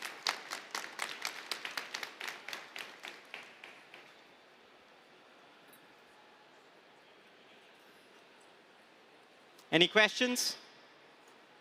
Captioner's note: applause